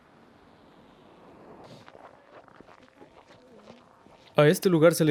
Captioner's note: footsteps on the snow